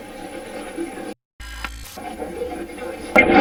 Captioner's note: static playback transmitting; static fizzing